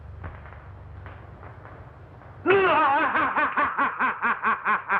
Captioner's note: laughing wildly